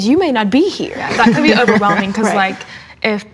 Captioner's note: laughs